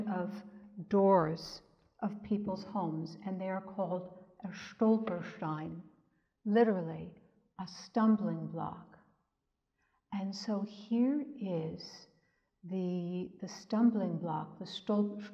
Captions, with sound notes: of doors of peoples' homes, and they are called (speaks in German) Literally a stumbling block. And so here is the stumbling block (speaks in German)